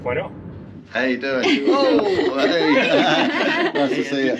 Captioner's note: laughing